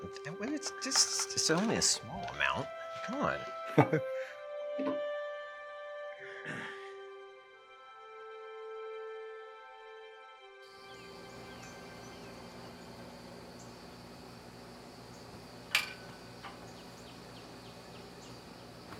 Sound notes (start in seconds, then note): 3.6 chuckling; 5.7 soft music; 11.3 flag flapping in wind